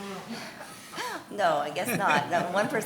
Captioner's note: chuckles